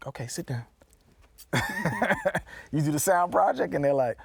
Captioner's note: laughing